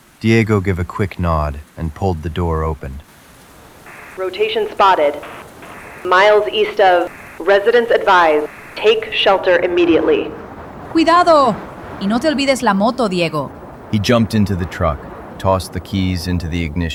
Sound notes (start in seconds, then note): 2.8 SFX: Outside door opening; 5.7 static; 9.1 static; 13.3 Spanish